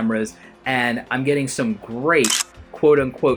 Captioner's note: camera clicking